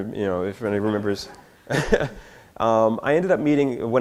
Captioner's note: chuckles